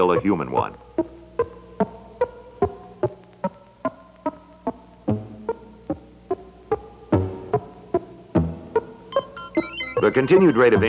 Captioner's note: Electronic audio effects